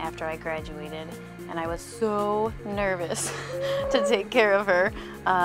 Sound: laughs

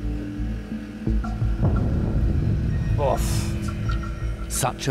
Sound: beeping

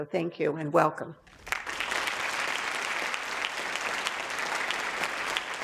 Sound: audience applauds

